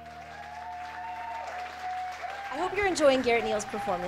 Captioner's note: applause